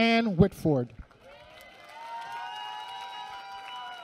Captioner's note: applause